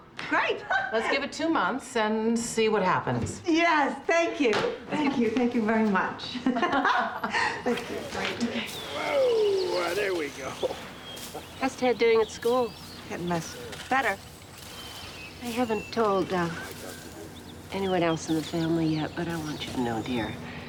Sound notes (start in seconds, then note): 6.4 both laugh